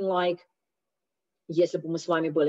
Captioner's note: Russian